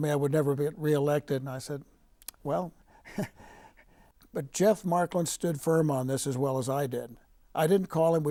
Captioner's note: laughing